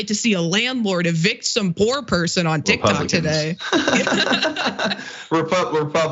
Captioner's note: laugh